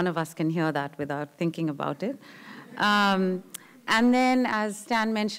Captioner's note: laughter